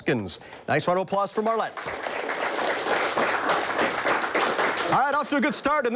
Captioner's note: audience applauds